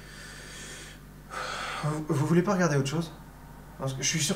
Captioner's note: sigh